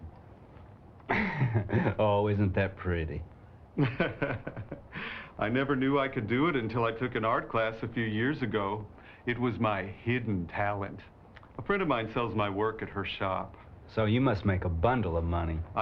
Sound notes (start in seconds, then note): 1.0 chuckles; 3.8 laughs